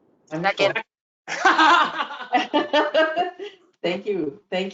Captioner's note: laughter